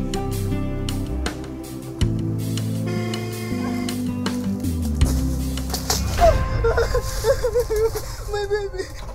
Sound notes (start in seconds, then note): 2.7 car honking; 6.0 woman crying